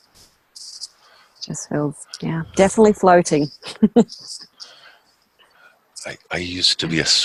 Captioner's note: chuckles